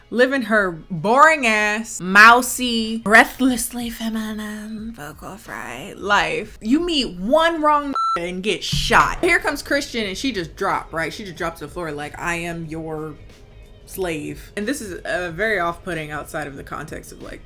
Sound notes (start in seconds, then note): 7.9 beep